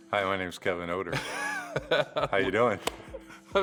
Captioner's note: laughs